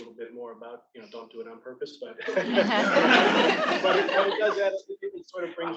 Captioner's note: attendees laughing